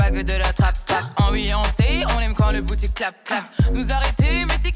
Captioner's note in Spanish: clap